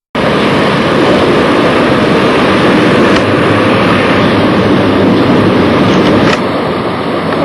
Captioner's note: train noise